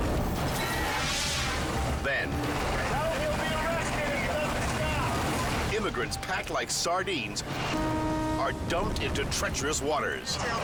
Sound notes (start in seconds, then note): 0.5 air whooshes